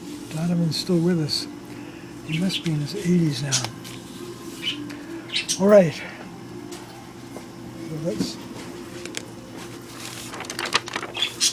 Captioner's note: parakeet chirps